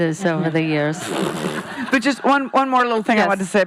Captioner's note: laughing